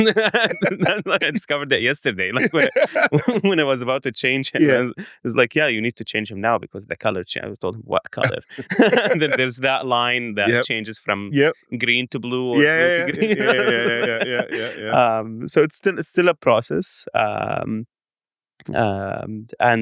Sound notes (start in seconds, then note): 2.3 laughs; 8.2 laughs; 12.5 laughs